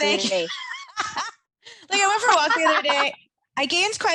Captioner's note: laughing